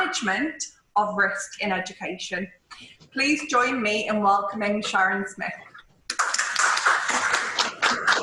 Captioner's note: applause